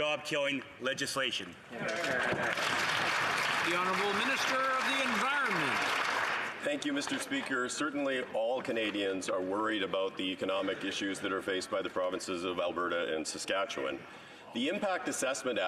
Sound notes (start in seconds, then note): 5.3 some Applause